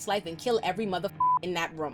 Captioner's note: beep